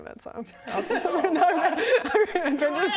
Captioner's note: team player chuckles